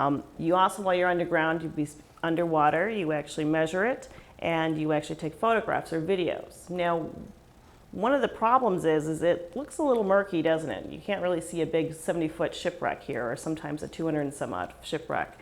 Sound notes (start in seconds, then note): none